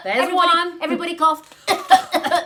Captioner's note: cough, cough; cough, cough